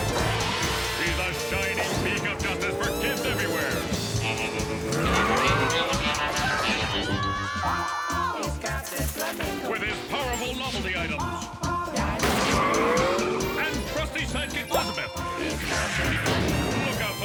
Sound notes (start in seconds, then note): 0.0 exciting music; 3.7 cool music playing; 3.7 motorcycle revving; 4.2 children shouting; 10.5 chorus vocalizing; 10.5 motorcycle crashing